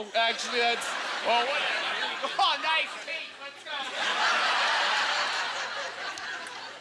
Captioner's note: audience laughter